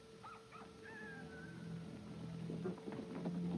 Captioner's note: el gallo canta; música premonitoria